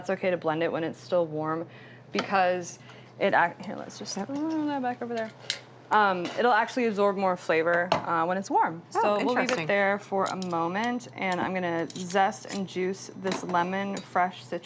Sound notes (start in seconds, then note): none